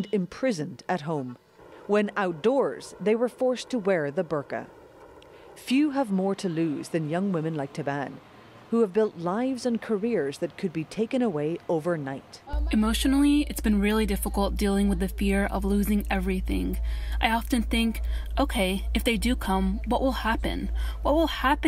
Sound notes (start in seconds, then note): 12.6 through translator